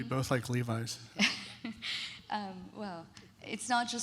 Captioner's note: laughs